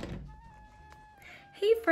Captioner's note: door closes